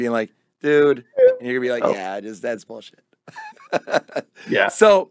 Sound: beep

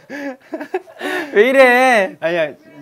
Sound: haha

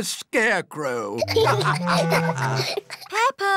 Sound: laughter

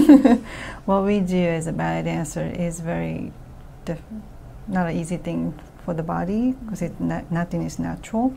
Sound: laughs

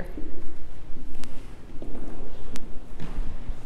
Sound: footsteps

